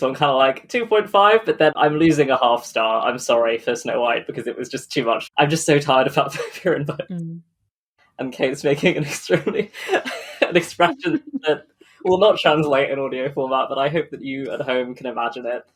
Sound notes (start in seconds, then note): 6.0 laughing